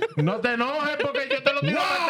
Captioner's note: speaking Spanish